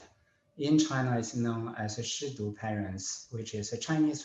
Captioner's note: speaking in a foreign language